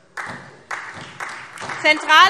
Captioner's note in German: Beifall SPD